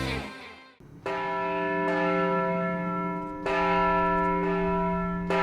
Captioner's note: church bells toll